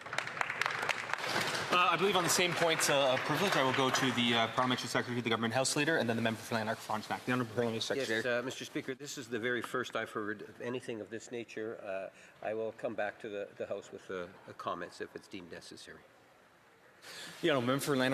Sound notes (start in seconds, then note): 5.8 some Applause